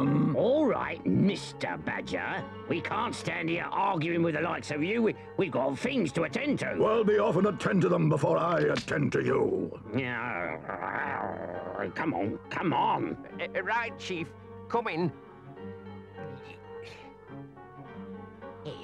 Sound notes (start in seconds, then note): 8.5 twig snaps; 10.3 Chief Weasel grunts; 16.2 Henchman Weasel grumbles